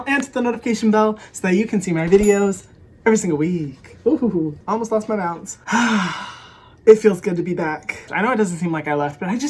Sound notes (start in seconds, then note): 5.6 sighs